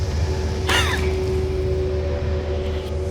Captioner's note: gasping